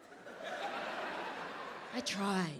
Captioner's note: audience laughing